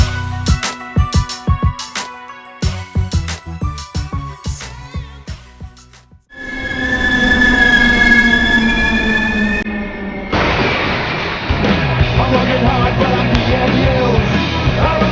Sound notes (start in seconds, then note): 0.0 upbeat hip-hop music continues; 6.4 brakes screeching; 10.4 metal crashing